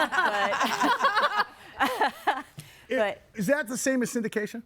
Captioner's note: guests laughing